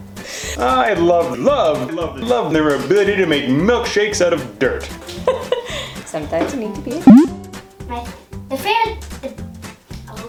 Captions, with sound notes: I love, love, love, love their ability to make milkshakes out of dirt. (laughter) Sometimes you need to be a (beep). My fav..my favorite thing...oohhh.